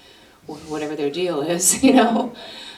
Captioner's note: laughter